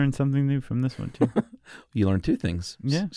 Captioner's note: laughs